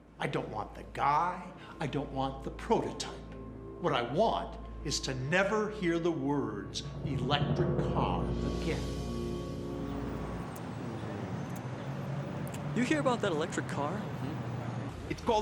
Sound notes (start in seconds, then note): 9.6 birds chirping; 9.9 traffic humming